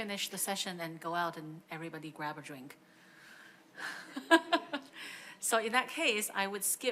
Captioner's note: laughs